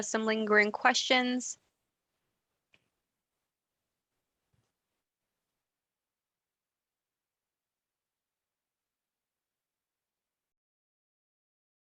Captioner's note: no sound while waiting for questions